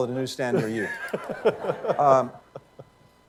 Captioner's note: laughter